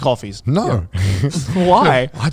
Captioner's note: laughs